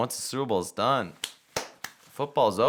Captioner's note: claps